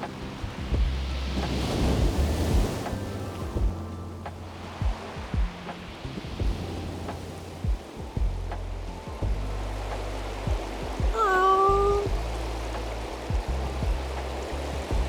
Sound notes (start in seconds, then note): 1.7 wind blowing